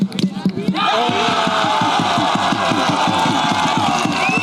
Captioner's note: cheering